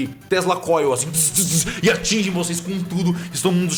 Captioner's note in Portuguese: Dzzz, Dzzz